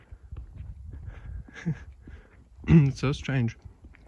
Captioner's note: clears throat